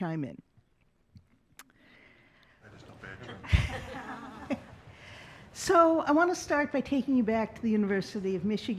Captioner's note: laughing